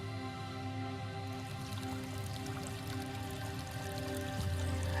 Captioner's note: water trickling